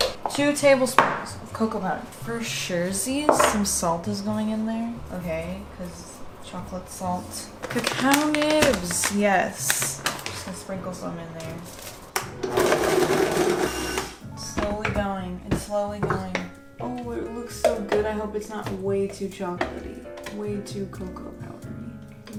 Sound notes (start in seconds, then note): 12.4 blending